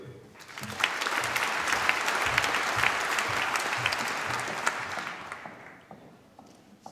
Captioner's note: applause